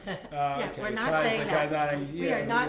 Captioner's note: laughter